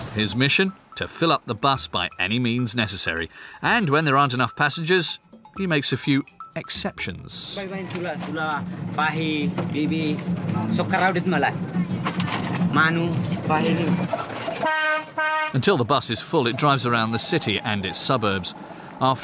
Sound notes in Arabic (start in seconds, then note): 14.4 صوت بوق الحافلة